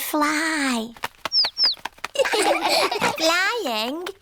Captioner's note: chirping; laughter